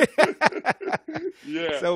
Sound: laughter

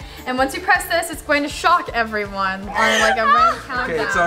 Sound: whining

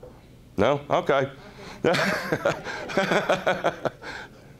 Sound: laughing

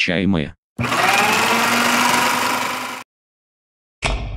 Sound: shredder sounds

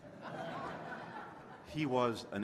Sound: laughter

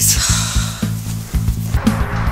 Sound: Allison sighs

